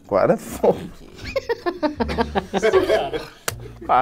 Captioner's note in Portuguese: risadas